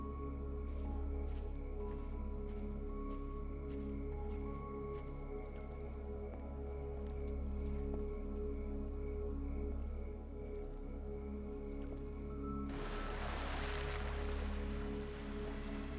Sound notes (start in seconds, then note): 0.9 grass crunching; 7.6 footsteps pattering; 7.6 insects chirping; 12.7 water splashing; 15.7 eerie suspenseful music continues